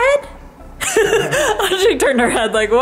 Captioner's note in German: lacht